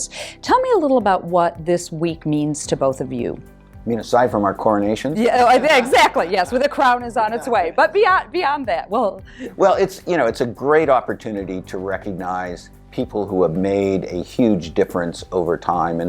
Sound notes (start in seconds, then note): 5.2 laughing